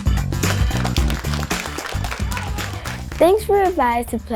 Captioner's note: students applauding